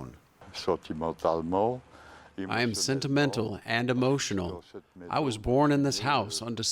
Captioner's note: through translator